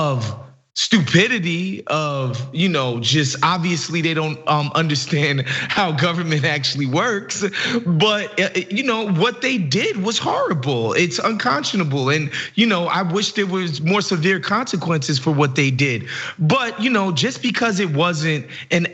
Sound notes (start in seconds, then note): 7.2 laugh